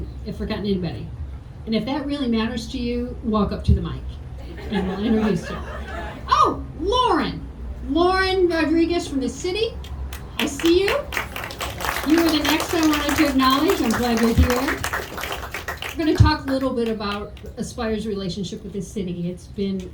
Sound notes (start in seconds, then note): 9.8 audience clapping